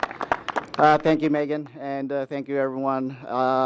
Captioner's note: applause